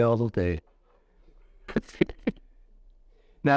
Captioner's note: laughs